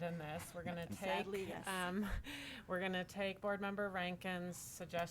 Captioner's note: chuckles